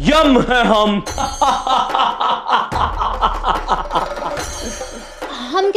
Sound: laughing

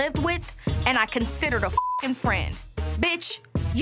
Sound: beep

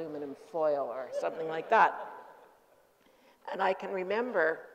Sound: group laughing

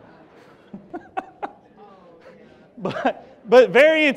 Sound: laughs

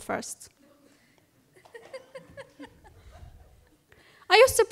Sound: laughter

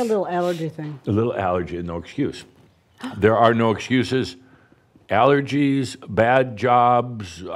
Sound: gasps

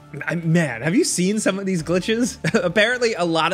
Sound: laughs

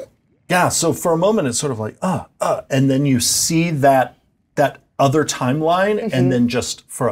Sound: grunt

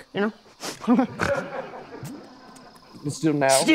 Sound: snorts

